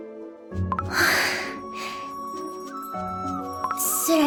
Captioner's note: sigh